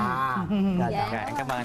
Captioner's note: giggles